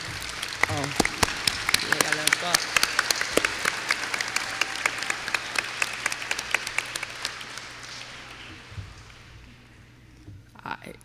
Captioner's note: applause